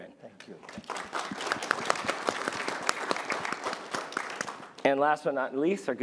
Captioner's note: applause